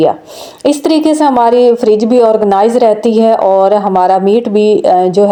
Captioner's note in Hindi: नाक से की जाने वाली आवाज़